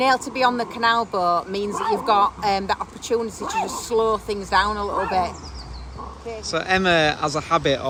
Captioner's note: dog barking